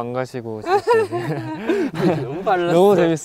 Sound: laughing

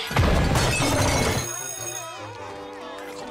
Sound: bell ringing

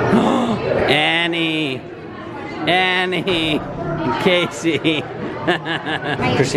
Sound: laughs

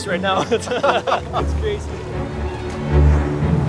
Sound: laughs; bright music

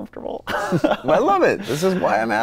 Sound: both laughing

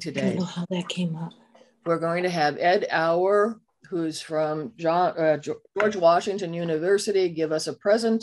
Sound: background voices

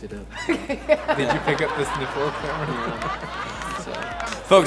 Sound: laughs

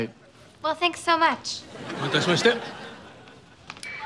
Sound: speaking foreign language

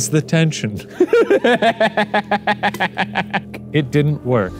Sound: both laughs

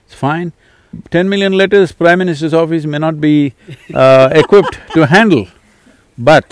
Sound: laughs

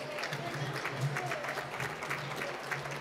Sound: applause

